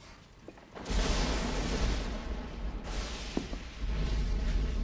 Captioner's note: thunder & lightning